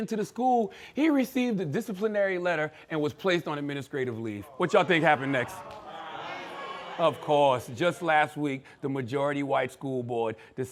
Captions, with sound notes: into the school, he received a disciplinary letter and was placed on administrative leave. What y'all think happened next? (crowd chattering) Of course. Just last week, the majority white school board